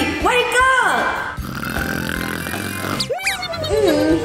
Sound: snoring

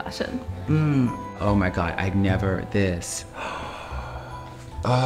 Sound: gasps

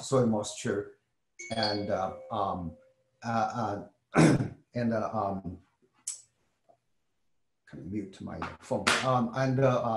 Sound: cough

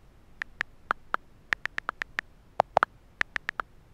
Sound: clicking

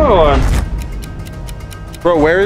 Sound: clock ticking

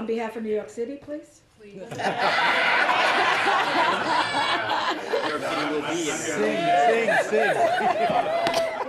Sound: laughing

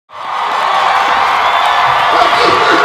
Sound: cheering

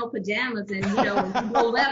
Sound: laughs

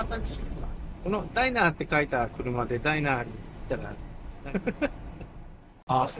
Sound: laughs

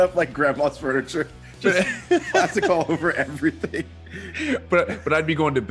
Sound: laugh

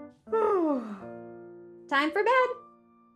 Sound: yawning

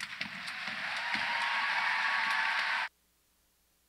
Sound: audience applauds

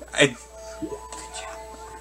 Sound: whispers

